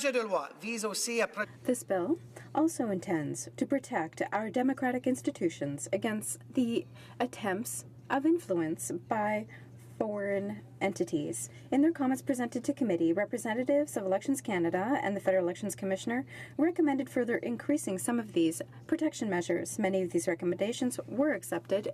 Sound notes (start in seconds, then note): 5.2 speaking French